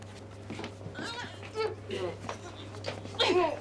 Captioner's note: both grunting